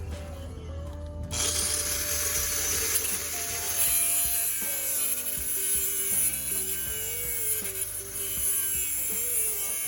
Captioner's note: whirring saw, metal scraping